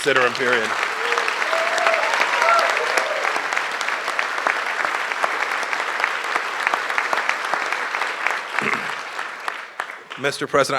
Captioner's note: applause